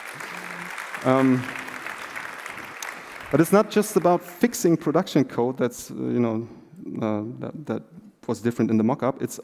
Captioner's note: applause